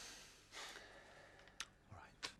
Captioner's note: Rob sighs